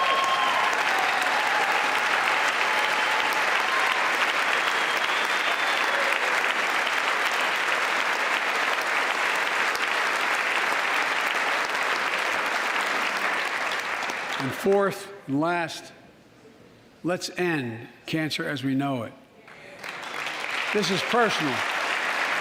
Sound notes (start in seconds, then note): 9.1 applause